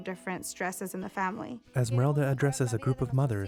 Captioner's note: speaking spanish